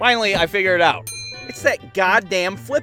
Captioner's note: ding